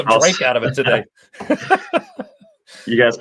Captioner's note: laughter